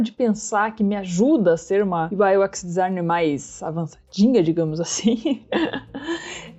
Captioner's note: laughs